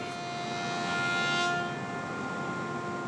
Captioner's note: whirring